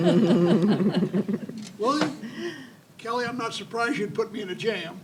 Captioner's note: audience chuckles